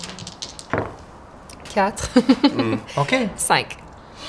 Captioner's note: she laughs